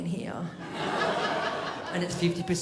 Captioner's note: crowd laughs